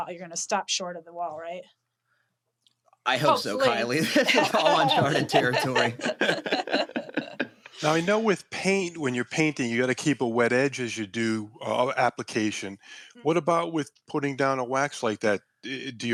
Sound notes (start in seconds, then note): 3.2 laughs; 5.7 laughter